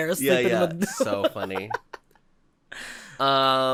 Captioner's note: giggles